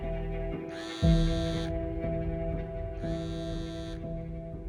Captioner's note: phone buzzing